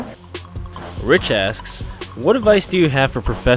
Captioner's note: voiceover